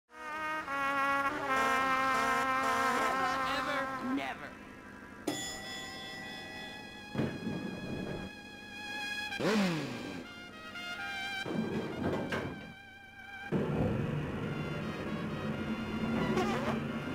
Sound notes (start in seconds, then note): 5.2 elevator bell rings; 7.1 elevator door opens; 8.8 motorcycle engine revving; 11.4 elevator door closes; 16.2 fart sound